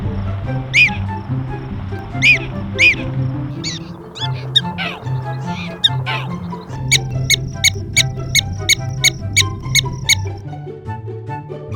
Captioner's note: prairiedogs chirping